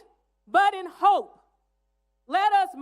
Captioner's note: none